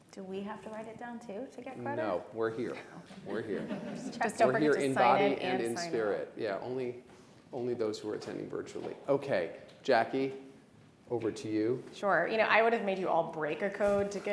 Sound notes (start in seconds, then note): 5.7 audience laughing